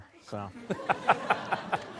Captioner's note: laughter